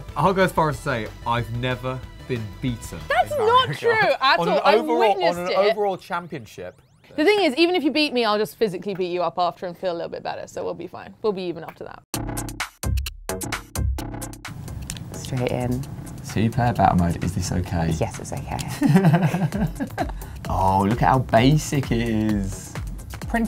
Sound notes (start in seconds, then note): 12.3 upbeat music; 18.7 laughs